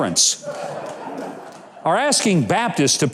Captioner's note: audience laughs